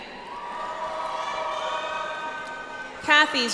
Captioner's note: audience applauds